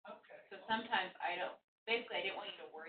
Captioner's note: woman's Voice